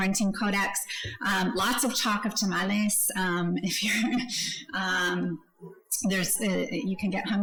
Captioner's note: laughs